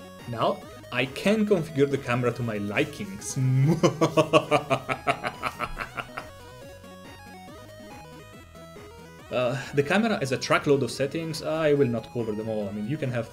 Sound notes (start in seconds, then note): 3.6 evil laughter